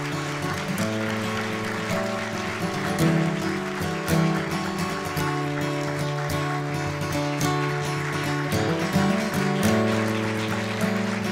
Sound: applause

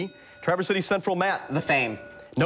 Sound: bell rings

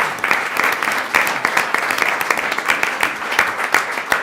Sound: applause

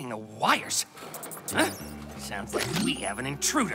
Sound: squeaking

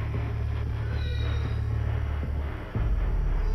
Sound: distant groan

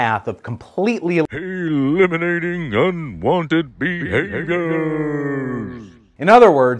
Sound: dramatic voiceover

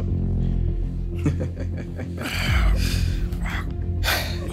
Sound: Mackie laughing

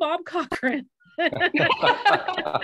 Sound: laughter

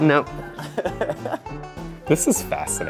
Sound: laughing

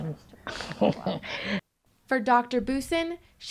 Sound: laughs

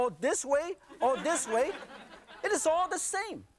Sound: audience laughing

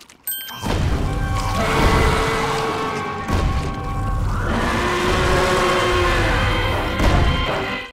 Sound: roaring

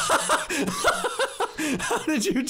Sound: laughing

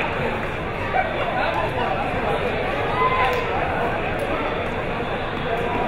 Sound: crowd members talking

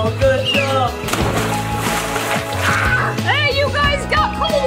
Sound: water splashing

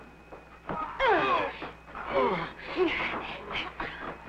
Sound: all grunting

